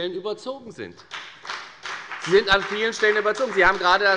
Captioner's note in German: Beifall bei der FDP